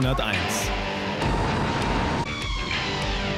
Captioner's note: tires squeal